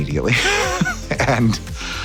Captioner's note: laughing